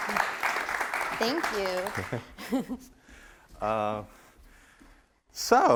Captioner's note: giggles